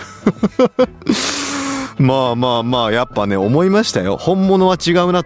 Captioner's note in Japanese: 笑い